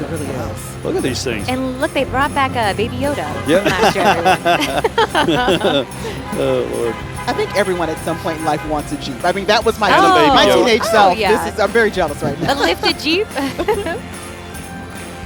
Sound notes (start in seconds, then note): 5.5 laughing; 11.8 laughing; 14.8 holiday music